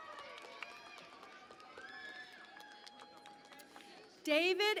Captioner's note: cheering and Applause